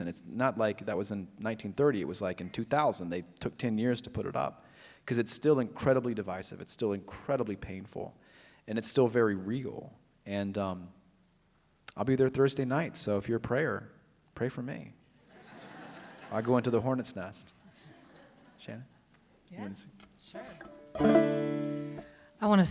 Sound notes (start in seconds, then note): 15.2 laughter; 20.3 banjo strumming